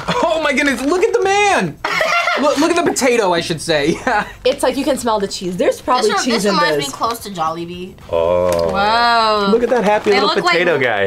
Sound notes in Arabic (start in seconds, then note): 1.8 يضحك